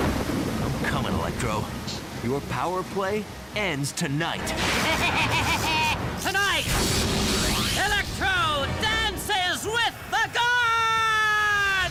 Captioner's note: screaming